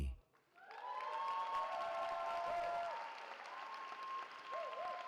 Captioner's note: cheering